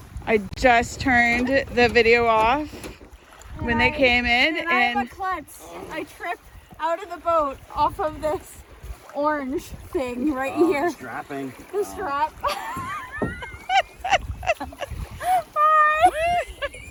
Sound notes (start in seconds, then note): 12.4 wispy laugh; 15.9 laughing continues